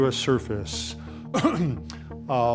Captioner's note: clears throat